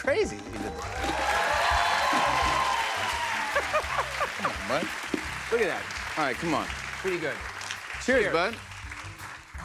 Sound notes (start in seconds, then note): 1.9 cheers and applause; 3.5 laughs